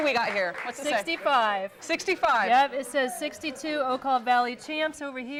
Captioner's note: �cheering and applause�